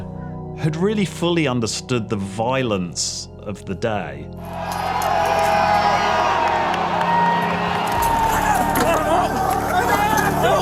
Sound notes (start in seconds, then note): 4.4 crowd cheering; 8.0 crowd shouting